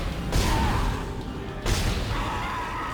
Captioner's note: dramatic music; gunshots; dramatic music